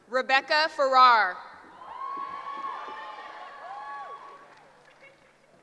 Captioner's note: cheering